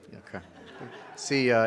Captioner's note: audience laughs